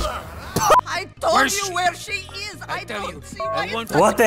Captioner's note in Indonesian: dua orang berdebat